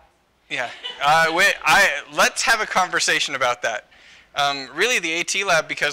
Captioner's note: laughter